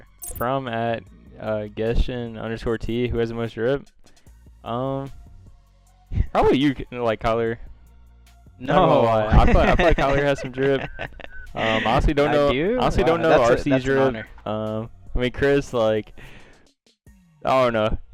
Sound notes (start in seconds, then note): 10.8 laughs